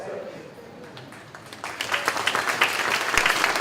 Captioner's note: clapping